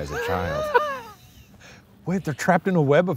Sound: laughing

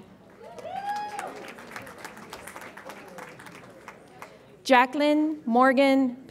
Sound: audience applauds and cheers

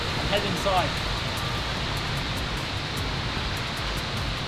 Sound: traffic and rain

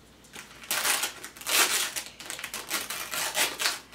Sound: paper ripping

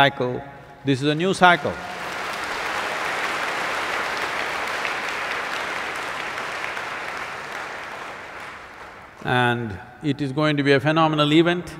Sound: applause

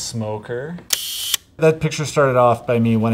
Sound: sound of camera shutter clicking

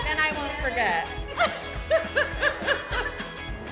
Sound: laughing

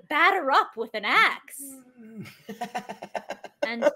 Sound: grunting; laughs

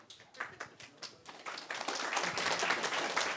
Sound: applause

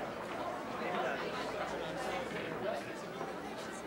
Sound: students chatter

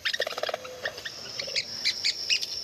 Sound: bird calls

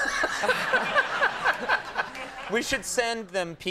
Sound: Conan and audience laughing

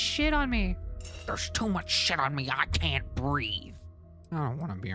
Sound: Tim Robinson Voice

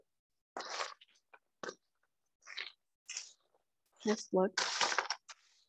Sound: spoon stirring

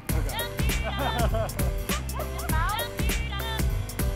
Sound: laughter

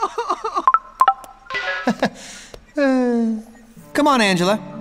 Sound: sobbing; chuckles

